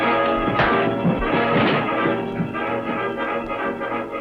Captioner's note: punch lands